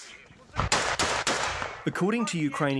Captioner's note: gunfire